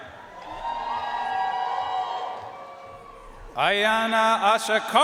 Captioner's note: audience cheering and applauding